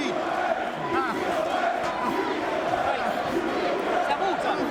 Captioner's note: spectators chanting "Who's the man?"